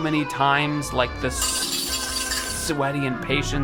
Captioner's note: metal rattle